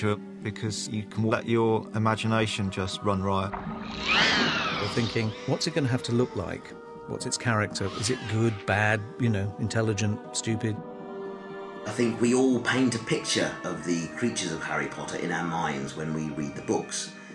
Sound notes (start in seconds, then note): 3.8 shrieks